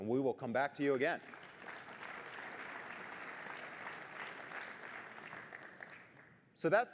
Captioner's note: applause